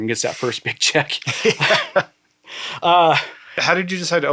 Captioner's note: chuckling